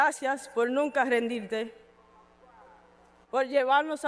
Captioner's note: speaking in Spanish